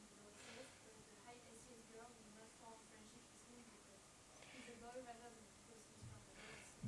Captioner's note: faintly speaks